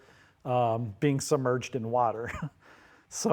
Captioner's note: chuckles